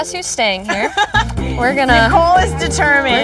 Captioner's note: laughter